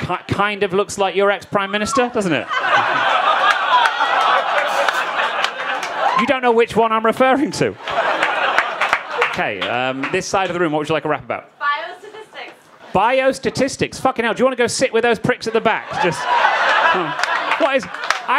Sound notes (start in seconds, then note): 4.0 crowd laughing; 8.5 crowd laughing; 15.2 crowd laughing